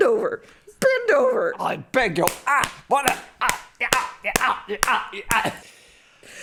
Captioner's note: slapping noises